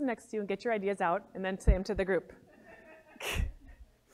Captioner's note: laugh